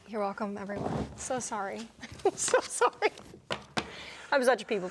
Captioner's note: laughing